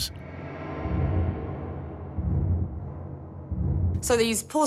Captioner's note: eerie sounds